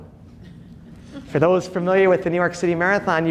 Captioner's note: audience laughing